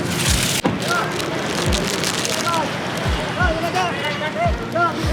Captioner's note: plastic wrapping paper scrunches